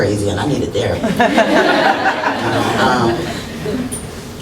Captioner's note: laughter